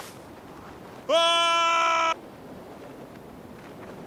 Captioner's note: man screaming